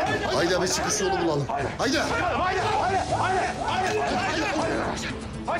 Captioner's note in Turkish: Bağırışlar